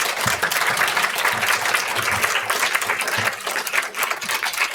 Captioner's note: audience applauds